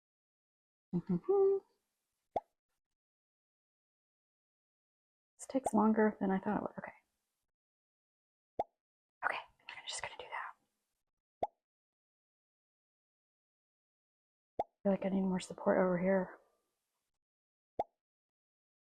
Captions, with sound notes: (hums to self...) It's takes longer than I thought it would. Okay. Okay. I'm just going to do that. I feel like I need more support over here.